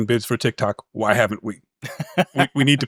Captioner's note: laughs